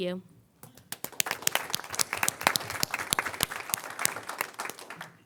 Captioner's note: crowd applauding